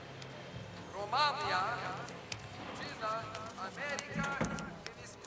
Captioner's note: announcer speaking spanish